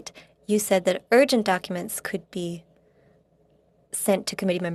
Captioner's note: speaking French